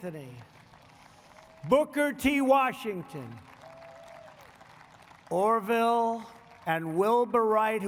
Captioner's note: applause